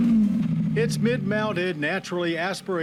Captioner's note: engine revs